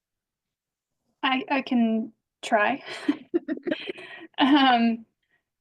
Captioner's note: laughs